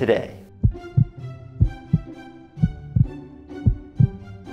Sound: heart throbbing

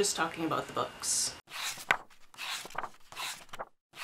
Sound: pages turning

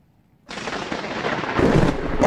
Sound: lightning strikes

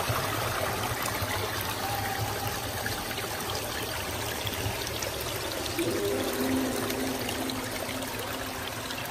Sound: water sounds

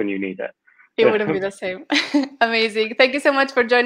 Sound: laughter

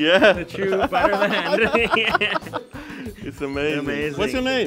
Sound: laughs

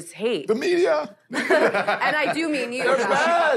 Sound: laughter

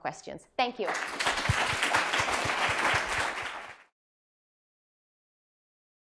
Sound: applause

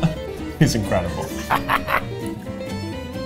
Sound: laughs; upbeat music

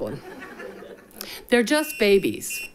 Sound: people laugh

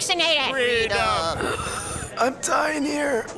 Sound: wheezing

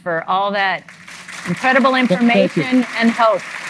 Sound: audience applauds

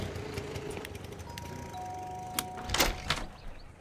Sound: door bell rings

